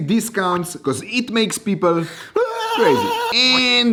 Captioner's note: crazy screaming